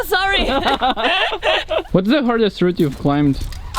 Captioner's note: laughs